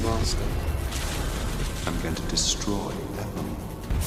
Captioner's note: electrical whirring